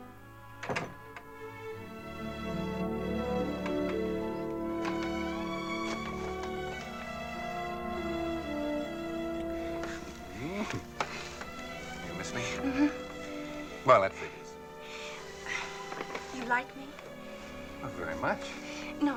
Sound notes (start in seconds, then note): 10.4 giggles; 14.0 sighs